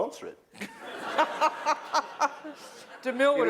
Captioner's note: laughter